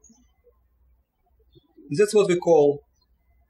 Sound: birds chirping

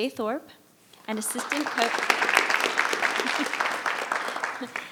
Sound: audience applauds

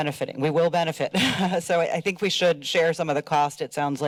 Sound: chuckles

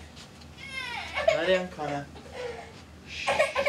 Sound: cries

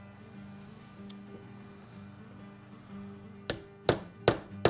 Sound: hammer tapping

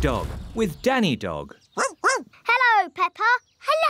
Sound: barking

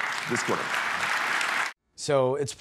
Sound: applause

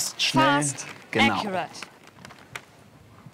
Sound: man speaks foreign language

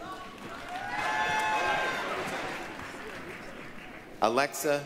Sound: applause, cheering

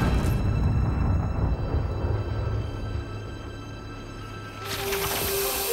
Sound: none

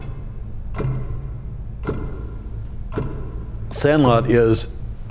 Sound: clock loudly ticking

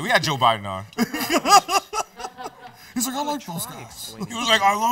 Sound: laughs

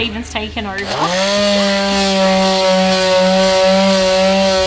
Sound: sander whirs

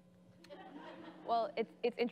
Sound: crowd laughing

